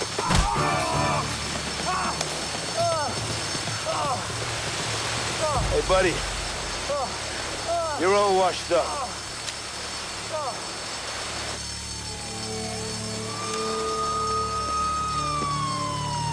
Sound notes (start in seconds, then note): 6.5 man groaning; 11.6 siren blaring